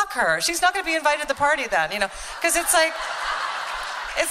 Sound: laughter

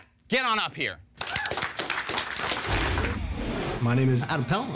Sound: applause

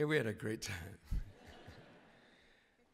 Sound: laughter

